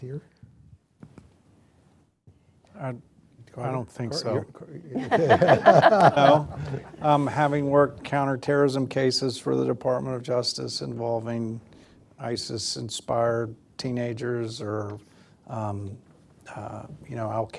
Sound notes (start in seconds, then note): 4.9 laughter